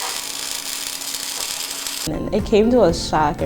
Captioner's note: welder crackling